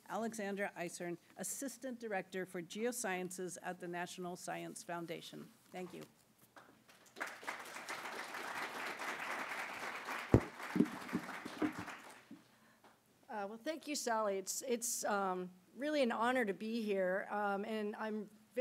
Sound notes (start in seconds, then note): 6.9 applause